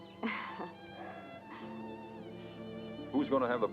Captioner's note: Delia chuckles